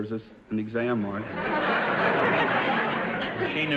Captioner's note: audience laughter